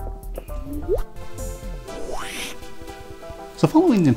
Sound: woosh

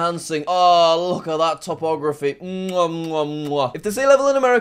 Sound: kissing

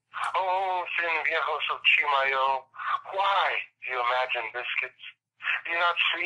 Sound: non-english speech

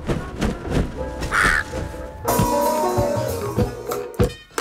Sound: crow squawks

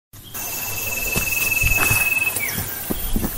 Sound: footsteps

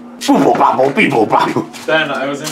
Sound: beeping noises

